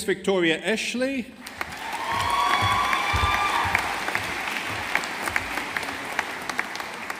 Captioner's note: audience applauding